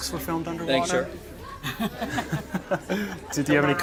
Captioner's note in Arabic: ضحك